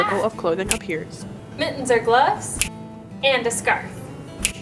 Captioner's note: snaps